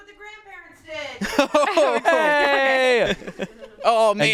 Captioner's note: laughs